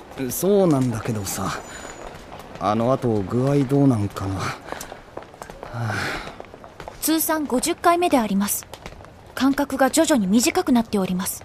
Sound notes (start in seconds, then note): 5.5 sigh